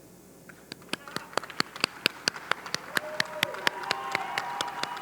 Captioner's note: audience clapping